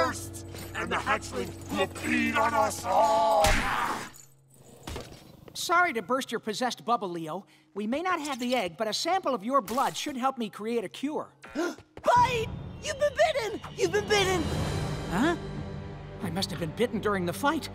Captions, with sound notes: and the hatchling will feed on us all! Sorry to burst your possessed bubble, Leo. We may not have the egg, but a sample of your blood should help me create a cure. [gasping] Bite! You've been bitten! You've been bitten! Huh? I must've been bitten during the fight.